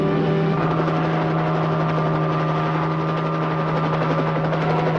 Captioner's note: helicopter roaring